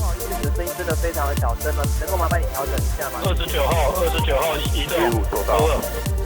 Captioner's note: upbeat music; speaking in another language; voiceover